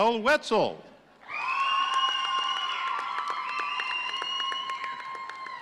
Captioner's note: audience cheering